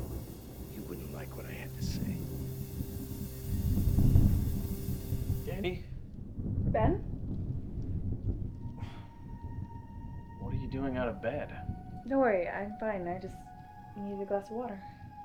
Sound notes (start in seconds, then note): 4.2 suspenseful music; 4.2 thunder rumbling; 8.7 Ben sighs